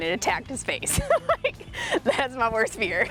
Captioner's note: laughs